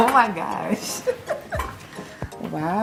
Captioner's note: laughs